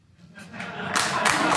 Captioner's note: laugh